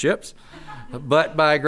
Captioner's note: audience laughing